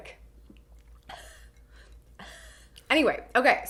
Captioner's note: laughs